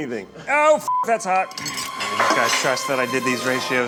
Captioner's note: beep